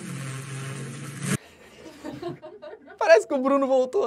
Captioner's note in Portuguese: risadas